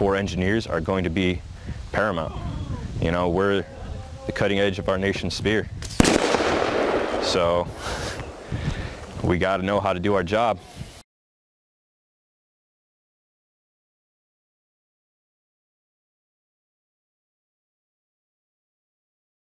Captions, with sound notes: engineers are going to be paramount. You know, we're the cutting edge of our nations spear (LOUD EXPLOSION IN BACKGROUND) - so, we gotta know how to do our job!